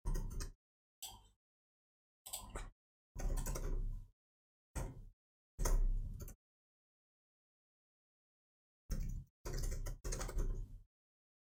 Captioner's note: blank Audio